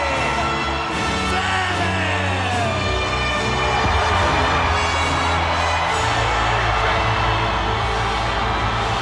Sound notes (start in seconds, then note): 4.0 audience cheering